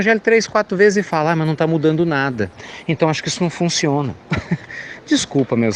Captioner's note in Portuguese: Risos